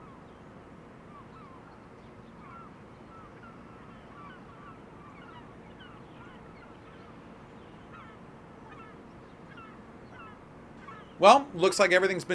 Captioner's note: birds chirping